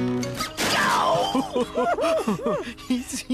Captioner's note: crash!; laughing